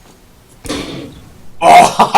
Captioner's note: gun shot